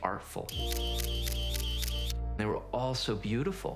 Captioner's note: camera shutter clicking